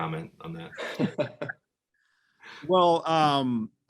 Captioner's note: laughing